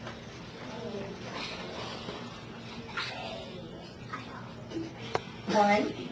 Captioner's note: students chattering